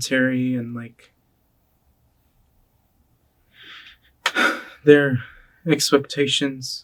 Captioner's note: sighs